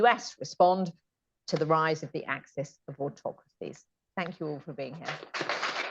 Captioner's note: applause